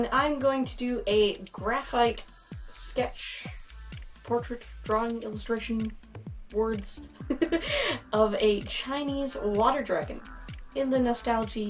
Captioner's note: laughs